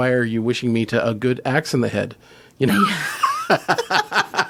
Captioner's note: chuckle